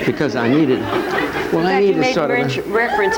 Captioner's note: audience laughing